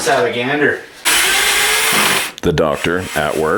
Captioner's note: whirring